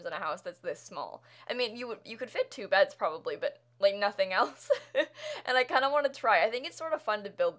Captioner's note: laughter